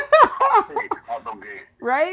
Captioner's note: laughing